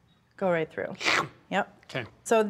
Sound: imitates swooshing sound

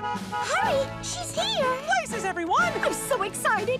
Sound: horn honks

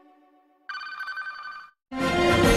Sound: communication signals dialing; orchestral music plays

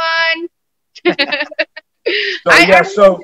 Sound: laughter

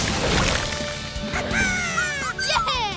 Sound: laughing

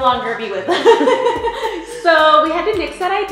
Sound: laughs

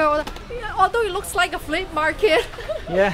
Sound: laughs

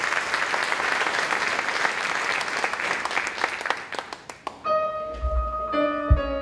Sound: applause

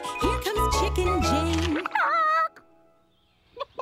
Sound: squawks; clucking

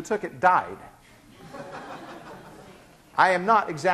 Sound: class laughing

